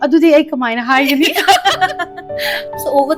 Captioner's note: laughing